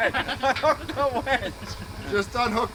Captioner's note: workers laugh